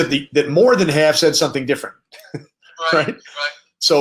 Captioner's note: laughs